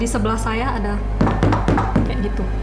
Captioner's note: knocking sound